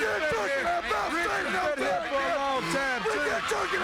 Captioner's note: both yelling